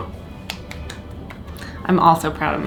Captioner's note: clapping